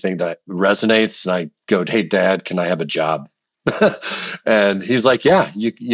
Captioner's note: laughs